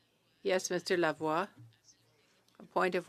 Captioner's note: speaking French